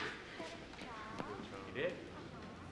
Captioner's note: none